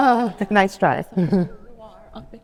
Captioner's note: laughing